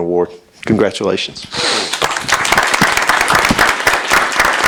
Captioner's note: applause